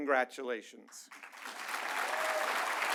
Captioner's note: applause